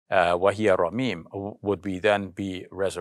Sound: speaks in arabic

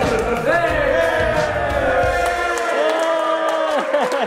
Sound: cheering

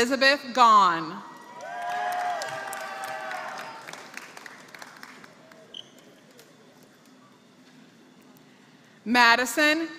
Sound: applause

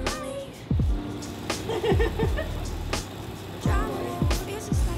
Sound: laughs loudly

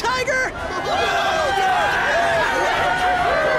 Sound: cheering

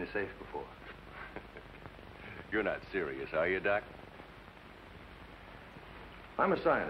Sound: chuckles

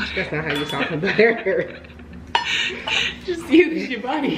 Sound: laughing

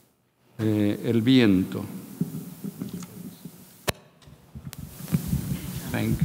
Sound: speaking in a foreign language

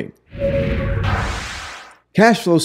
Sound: dynamic crashing

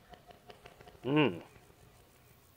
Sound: imperious grunt

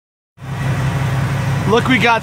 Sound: engine running

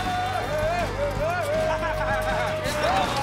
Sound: laughs

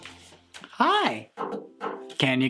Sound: knocks on ukulele

